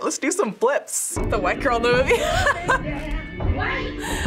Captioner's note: laughs